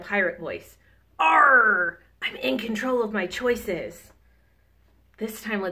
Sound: groans

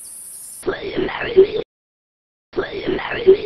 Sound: distorted Voice

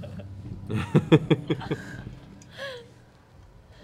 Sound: laughter

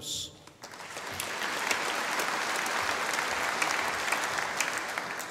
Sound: audience applauding

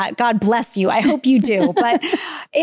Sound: giggling

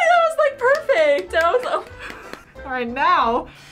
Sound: React claps

